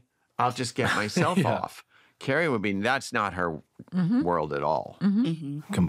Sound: chuckles

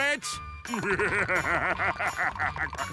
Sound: laughing

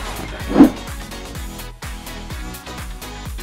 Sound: whoosh

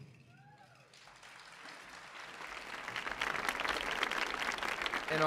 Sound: audience applauding

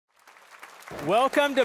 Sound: audience applauding

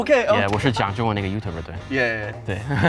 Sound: speaks foreign language

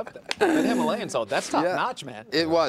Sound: laughter

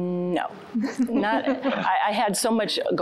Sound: giggling

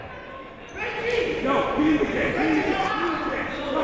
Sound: shouting

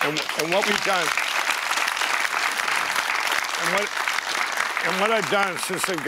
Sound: applause

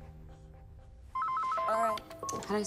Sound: phone ringing

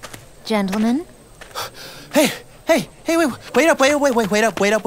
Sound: out of breath

